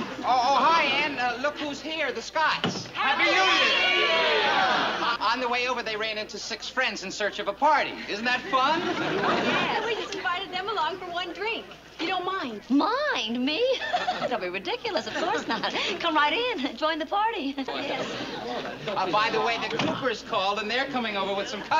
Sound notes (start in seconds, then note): 17.1 people talking